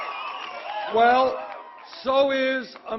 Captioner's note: applause